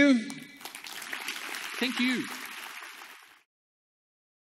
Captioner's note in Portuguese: Aplausos